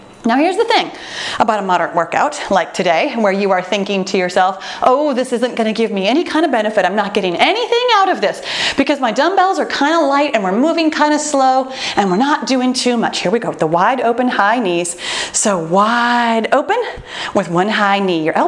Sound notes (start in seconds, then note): 11.8 timer beeps